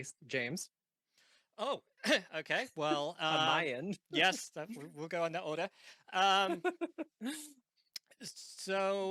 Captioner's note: laughing